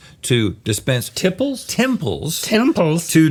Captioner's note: none